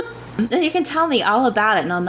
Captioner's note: laughs